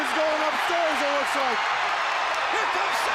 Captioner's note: crowd cheering